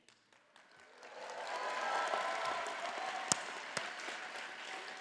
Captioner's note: audience applauding